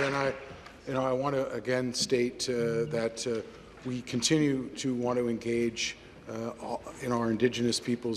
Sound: applause

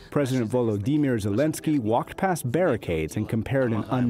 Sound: speaking Ukrainian

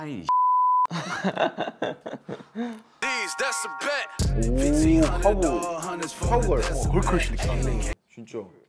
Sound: laughing

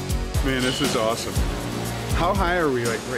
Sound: rock music; voiceover

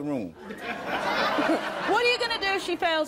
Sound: audience laughing

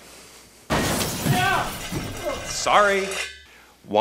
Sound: banging noise off-screen

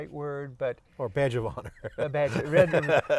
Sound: both laugh

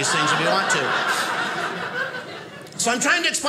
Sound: audience laughing

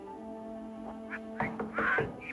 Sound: knocking

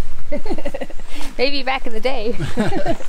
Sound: laughs

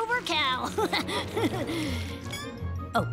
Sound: laughs

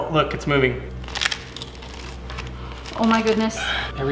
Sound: metal crunching

